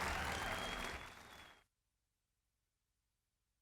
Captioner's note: applause